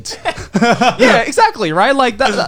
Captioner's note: Joey and Garnt laughing